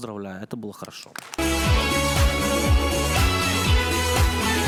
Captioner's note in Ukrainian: оплески